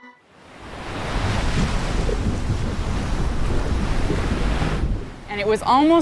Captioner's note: waves crashing